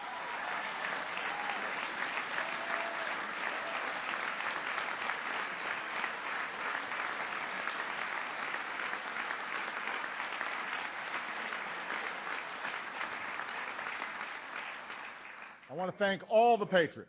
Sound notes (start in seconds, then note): 7.9 applause